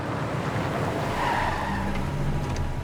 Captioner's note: tire squeal